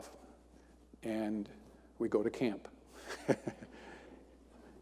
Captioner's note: chuckles